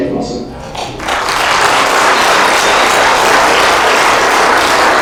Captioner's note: applause